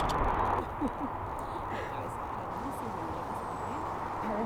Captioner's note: distant chatting